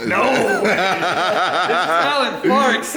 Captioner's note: laughs